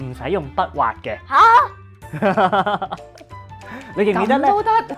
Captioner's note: laughing